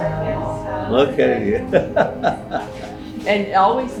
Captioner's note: laughing